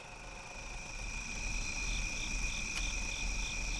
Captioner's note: crickets chirping